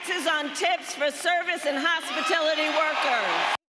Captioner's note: applause